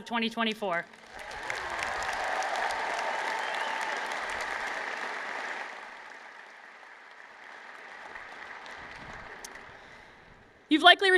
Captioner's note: applause